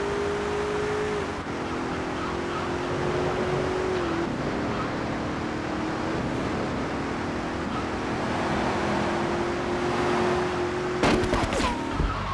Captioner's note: sirens wailing; gunshot